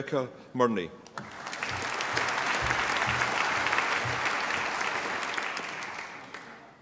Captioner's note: applause